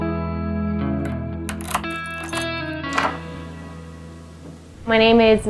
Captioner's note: door unlocking